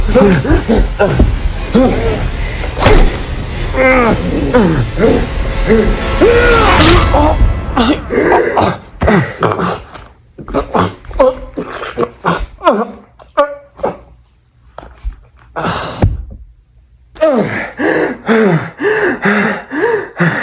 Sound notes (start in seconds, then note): 2.7 knife unsheathes; 3.7 grunting in pain; 3.8 growling; 6.2 screams; 6.3 stab; 6.9 music stops; 8.3 heavy gasp; 10.3 gagging & choking on blood; 17.4 heavy breathing